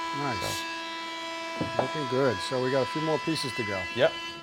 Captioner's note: saw whirring